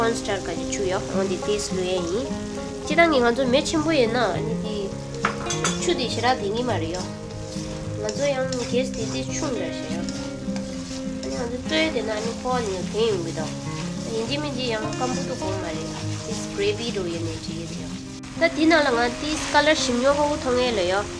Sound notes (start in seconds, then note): 4.2 fire